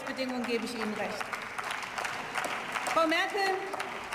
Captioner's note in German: Beifall